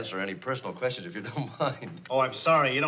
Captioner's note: chuckles